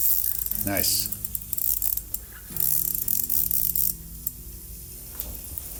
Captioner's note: rod whirring